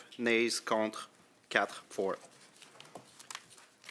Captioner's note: speaking French